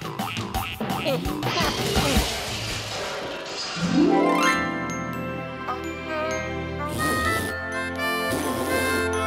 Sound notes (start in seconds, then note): 0.6 crashing; 5.9 spitting; 6.2 slow jazzy tune